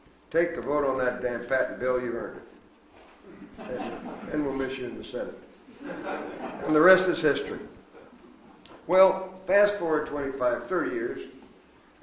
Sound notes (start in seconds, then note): 3.3 audience laughs